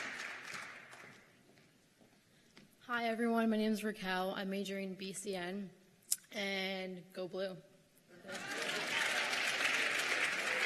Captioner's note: cheers and applause